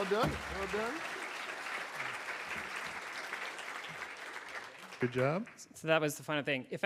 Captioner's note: audience applauds